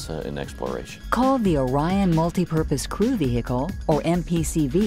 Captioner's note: voiceover